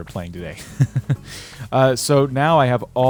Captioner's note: laughter